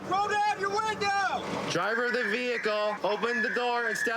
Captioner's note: using loudspeaker